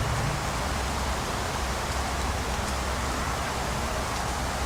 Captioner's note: wind Continues to Blow